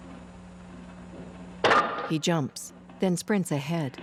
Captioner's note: clunk